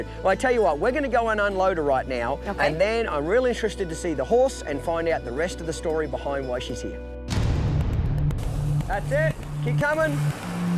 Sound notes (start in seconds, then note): 7.3 thunder